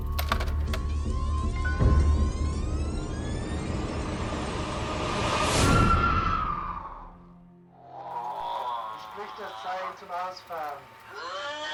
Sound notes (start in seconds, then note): 0.3 film whirring; 5.4 screaming